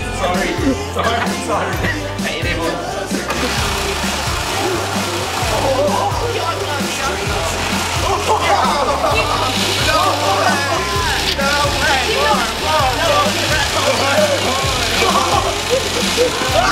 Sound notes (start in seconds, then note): 1.2 laughs; 3.3 motors whirring; 5.7 excited noises, cheering; 5.7 motors whirring; 16.5 laughter; 16.5 motors whirring